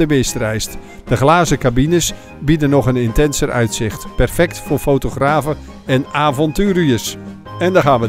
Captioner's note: voiceover